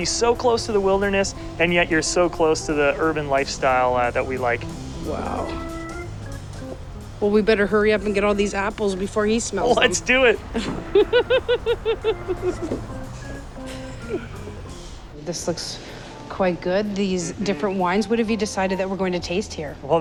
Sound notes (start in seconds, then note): 6.1 upbeat music; 13.0 laughs; 15.3 upbeat music